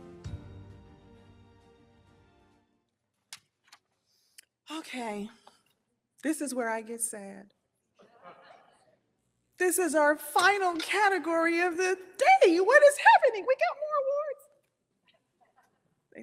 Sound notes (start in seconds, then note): 2.1 uplifting music fades; 8.1 audience chuckles